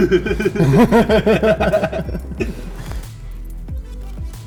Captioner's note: crew laughing